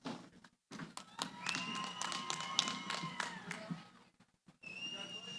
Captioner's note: cheering